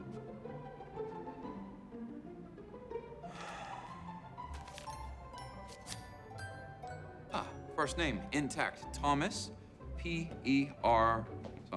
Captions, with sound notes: [EXHALES DEEPLY] AH. FIRST NAME INTACT. THOMAS. P-E-R-- SOMETHING.